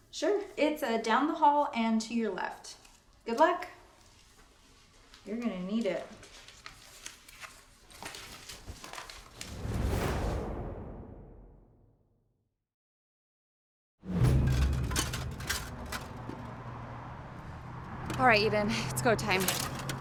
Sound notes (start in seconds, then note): 9.7 dramatic music thumps; 14.2 armor clanking